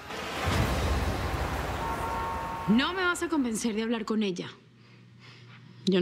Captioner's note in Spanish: Bullicio de la calle